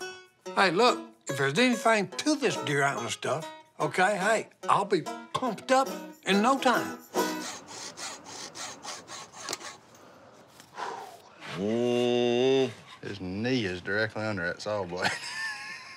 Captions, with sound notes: Hey look, if there's anything to this deer antler stuff, okay, hey, I'll be pumped up in no time. (sawing) (deep exhale) (anxious sighs) - His knee is directly under that saw blade.